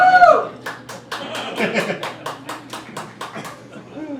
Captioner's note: one guy whoops; crowd laughing